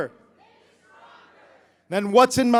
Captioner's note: crowd